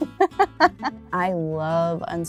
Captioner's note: laughter